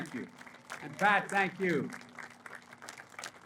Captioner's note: applause